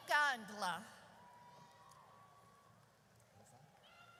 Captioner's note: audience cheers